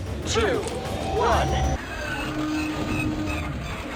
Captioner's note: hyperdrive whines and sputters